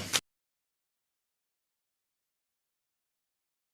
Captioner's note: gavel clacks